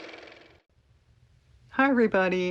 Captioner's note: car motor